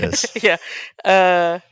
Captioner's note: laughs